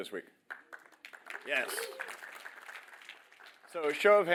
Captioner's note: applause